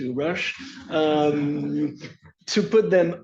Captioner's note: laughter